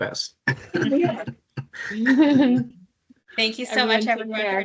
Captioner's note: laughing